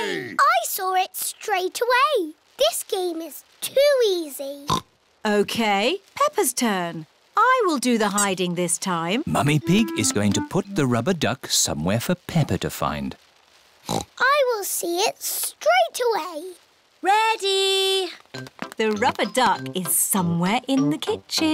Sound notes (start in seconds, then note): 4.5 oinks; 13.8 oinks